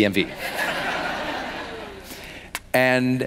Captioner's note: laughing